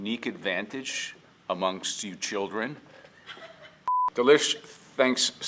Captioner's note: giggles